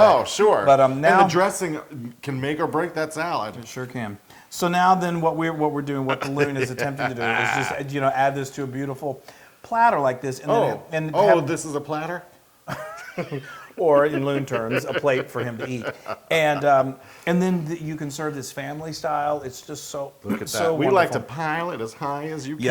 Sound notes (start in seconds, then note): 12.7 laugh